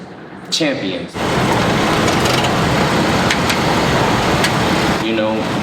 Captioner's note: engine idling